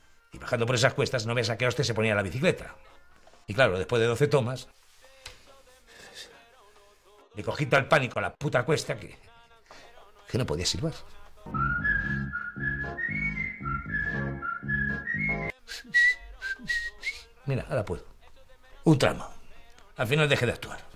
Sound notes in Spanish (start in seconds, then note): 15.7 Silba música